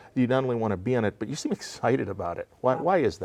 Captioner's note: laughing